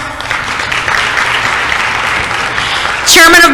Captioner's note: applause